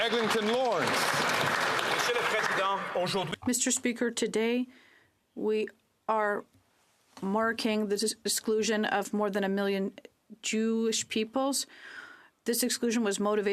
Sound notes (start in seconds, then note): 0.0 some Applause; 7.2 speaking French